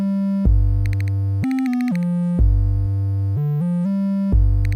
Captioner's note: lighthearted music; clicking sound